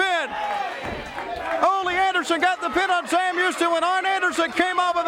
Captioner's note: crowd cheering